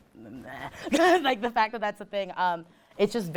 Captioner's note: laughs